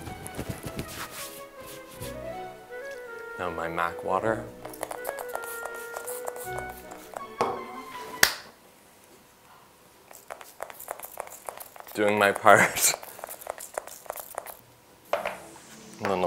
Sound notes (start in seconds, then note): 0.0 fabric wafting; 4.8 water spritzing; 8.2 claps hands, music abruptly ends; 12.3 laughs and spritzes